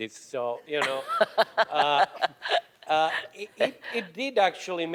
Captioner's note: laughing